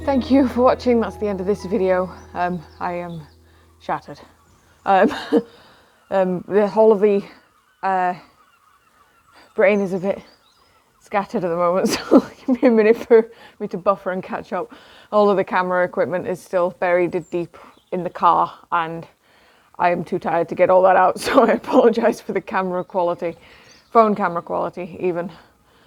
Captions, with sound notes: Thank you for watching, that's the end of this video. Um, I am shattered. All of the, uh.. My brain is a bit scattered at the moment, so give me a minute to buffer and catch up. [Laughs] All of the camera equipment is still buried deep in the car, and I'm too tired to get all of it out, so I apologise for the phone camera quality.